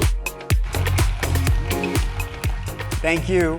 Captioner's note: audience applauding